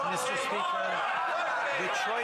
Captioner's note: some Applause